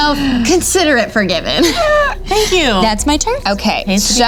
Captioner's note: laughs